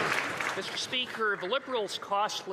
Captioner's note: some Applause